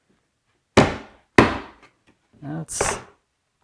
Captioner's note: wood bangs